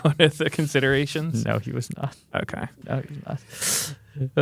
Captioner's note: laughs